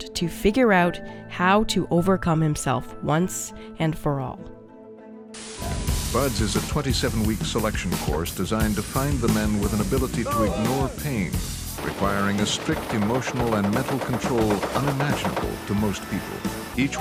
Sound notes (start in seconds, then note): 5.4 static hissing